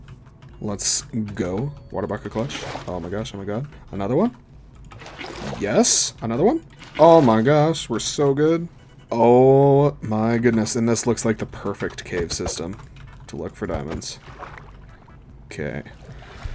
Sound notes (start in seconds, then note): none